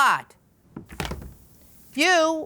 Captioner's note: tablet clunks on table